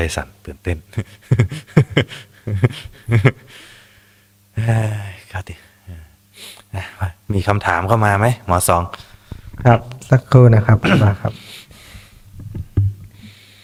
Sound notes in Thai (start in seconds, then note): 0.0 เสียงหัวเราะ; 6.3 เสียงสูดหายใจ